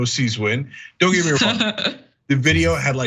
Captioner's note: laugh